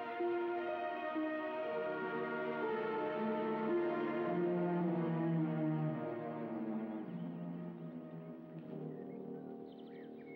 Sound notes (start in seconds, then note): 6.3 birds chirping